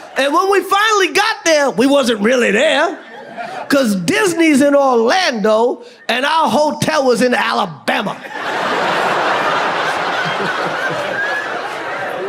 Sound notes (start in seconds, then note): 8.1 audience laughs